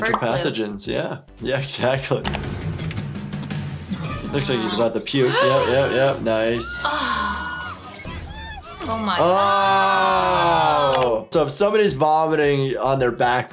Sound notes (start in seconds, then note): 5.2 flight attendant screaming; 6.7 gasps